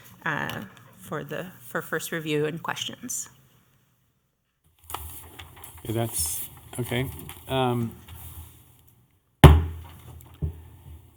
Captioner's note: gavel